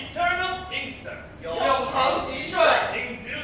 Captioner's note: Mandarin